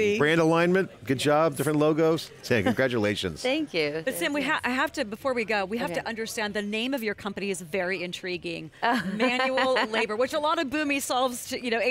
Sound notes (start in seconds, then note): 8.8 laughter